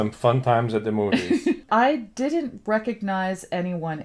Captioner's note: laughs